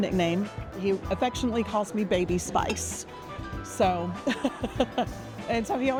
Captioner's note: laughs